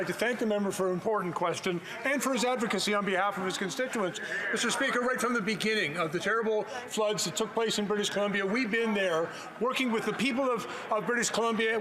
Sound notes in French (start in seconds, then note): 2.9 voix de l'interprète